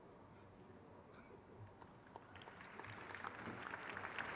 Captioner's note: crowd claps